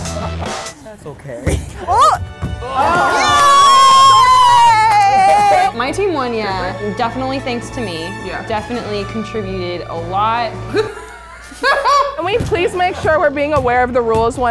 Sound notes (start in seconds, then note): 2.6 team screaming; 10.7 laughs